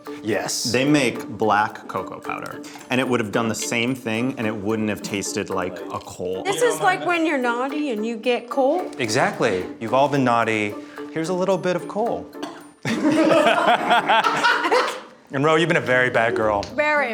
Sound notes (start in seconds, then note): 12.4 coughing; 12.8 group laughing